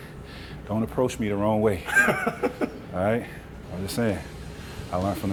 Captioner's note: laughs